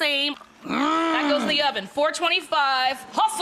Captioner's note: grunts